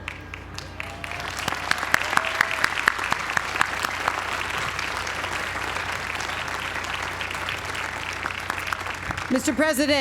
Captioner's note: applause